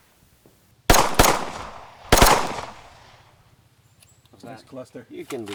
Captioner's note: gunshots booming